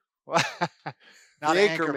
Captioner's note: laughing